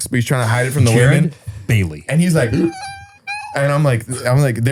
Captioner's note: whimpering